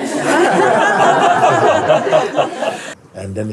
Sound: laughter

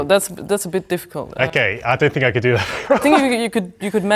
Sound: chuckles

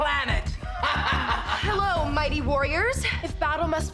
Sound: laughs

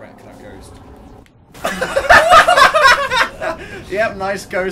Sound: laughs

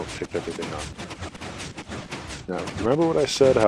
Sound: pistons continue

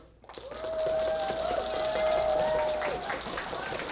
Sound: team cheering

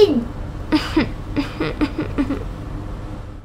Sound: sob! Sob!

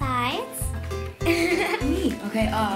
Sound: laughing

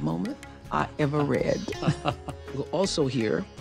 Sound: laughs

